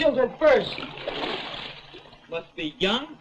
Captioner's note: water sloshes